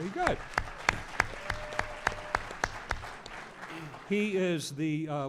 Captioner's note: audience applause